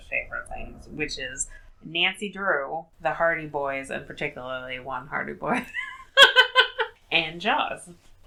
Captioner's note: laughs